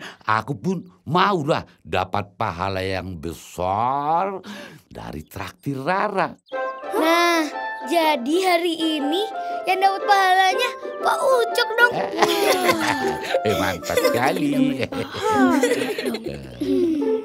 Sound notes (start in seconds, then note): 11.7 laughing